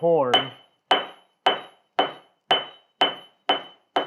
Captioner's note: metal clangs